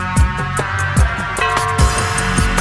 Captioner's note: bell ringing